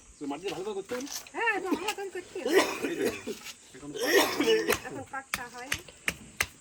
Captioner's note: people chattering in foreign language